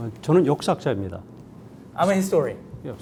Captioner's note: speaking in Korean